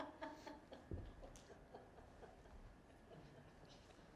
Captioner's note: laughter